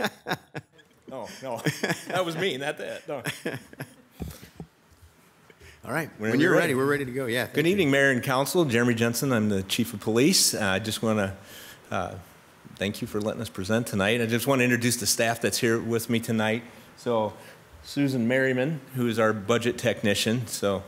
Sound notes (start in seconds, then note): 3.2 laughs